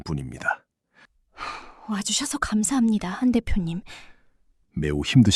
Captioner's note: sigh